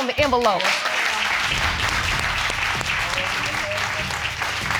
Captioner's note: applauding